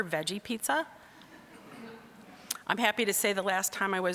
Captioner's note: audience laughing